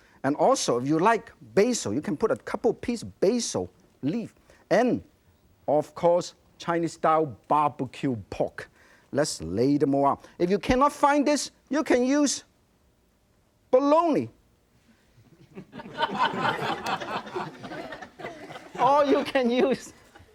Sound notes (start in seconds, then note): 15.4 audience laughs